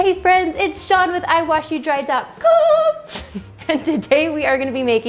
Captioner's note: laughs